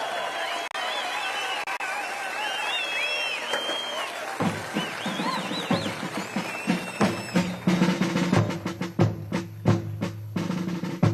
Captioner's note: cheers and applause